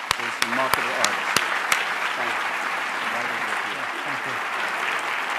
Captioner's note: applause